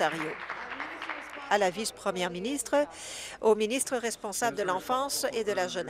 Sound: applause

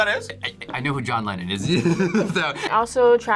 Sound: laughs

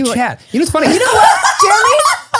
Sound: everyone laughs

